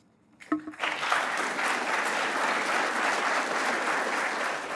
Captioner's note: applause